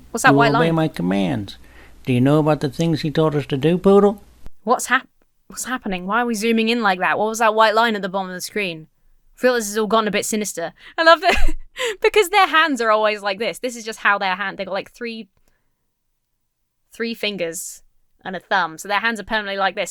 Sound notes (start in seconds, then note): 11.0 Emma laughs